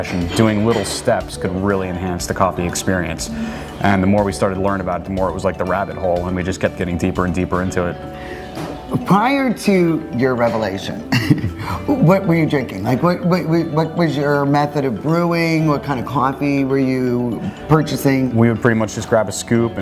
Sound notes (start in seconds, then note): 11.0 chuckles